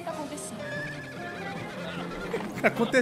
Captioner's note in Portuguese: cavalo relinchando